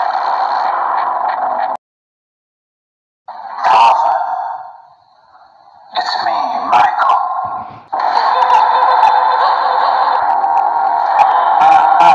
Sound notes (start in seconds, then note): 7.9 Golden Freddy Laugh; 11.3 Freddy Laugh